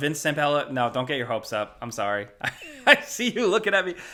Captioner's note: laughs